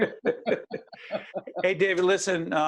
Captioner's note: laughing